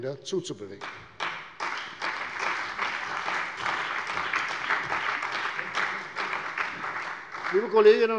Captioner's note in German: Beifall bei der CDU und dem BÜNDNIS 90/DIE GRÜNEN